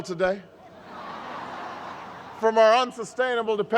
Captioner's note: laughter